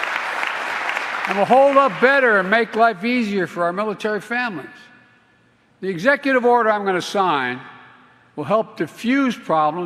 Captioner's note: applause